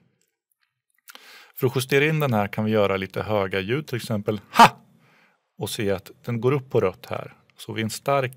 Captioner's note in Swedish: talaren gör ett starkt ljud